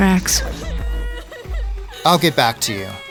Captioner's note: girl sobbing